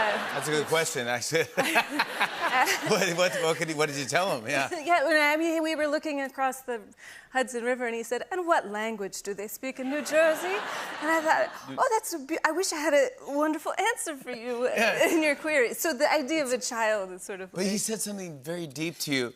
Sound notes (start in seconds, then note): 0.0 laughter; 9.8 laughter